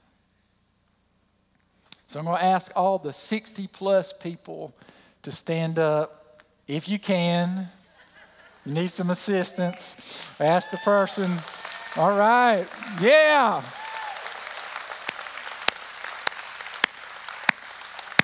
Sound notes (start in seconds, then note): 7.9 laughter; 12.5 cheers and applause